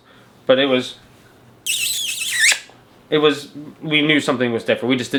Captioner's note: smooches